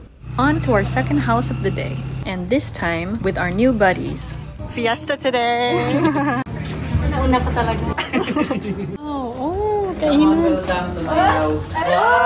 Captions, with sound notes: On to our second house of the day and this time with our new buddies. Fiesta today! I really went first (hahah) C'mon welcome to my house!